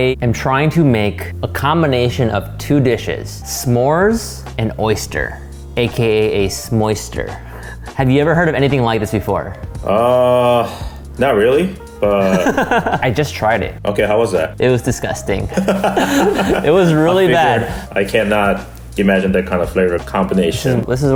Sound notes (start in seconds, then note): 12.2 laughs; 15.4 laughs